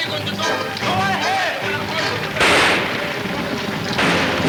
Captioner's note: guns firing; exciting orchestra music